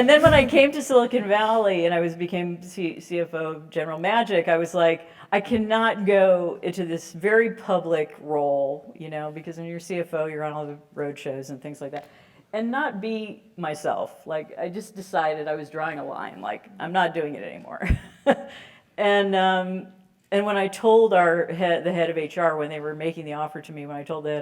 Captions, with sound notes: then when I came to Silicon Valley and I became CFO, General Magic, I was like, I cannot go into this very public role. Because when you're a CFO, you're on all the road shows and things like that, and not be myself. I just decided I was drawing a line, I'm not doing it anymore [LAUGH]. And when I told the head of HR, when they were making the offer to me,